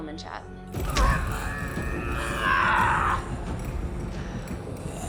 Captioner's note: Betty groaning